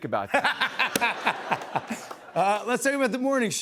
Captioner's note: laughter